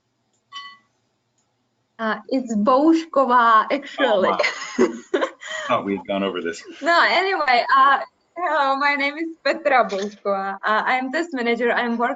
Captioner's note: laugh